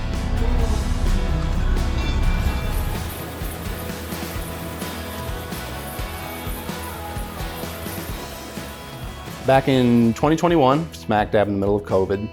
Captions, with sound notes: (engine humming) (water splashing) Back in 2021, smack dab in the middle of COVID,